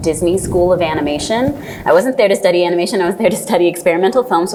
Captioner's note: laughs